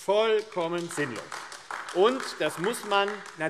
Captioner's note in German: Beifall AfD